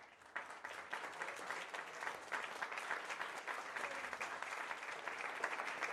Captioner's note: audience cheers and applauds